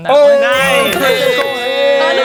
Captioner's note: laughs; players celebrating; triumphant sound effect plays